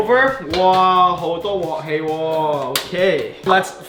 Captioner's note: Cantonese